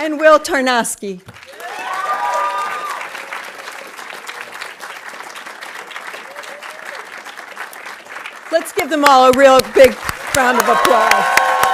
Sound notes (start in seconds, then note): 2.0 audience cheering and applauding